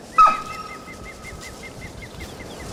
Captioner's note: dog barking